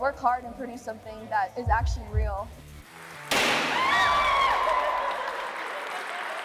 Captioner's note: competitors screaming; party favor popping